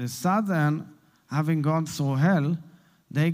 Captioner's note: Hebrew